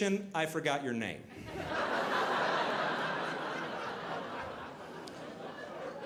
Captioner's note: audience laughing